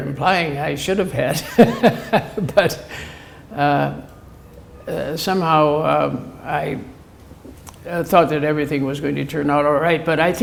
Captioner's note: chuckle